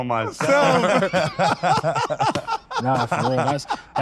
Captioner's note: laugh